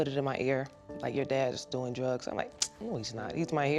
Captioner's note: clicks tongue